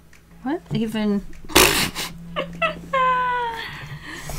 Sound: laughs

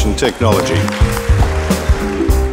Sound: applause

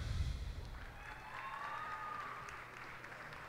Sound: cheers and applause

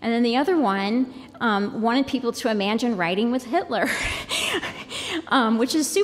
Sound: laughter

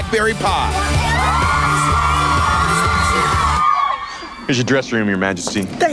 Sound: upbeat pop music; girls scream

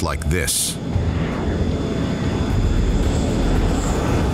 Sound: plane whizzing

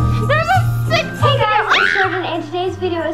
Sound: cries out

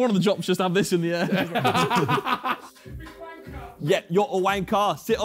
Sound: laughing

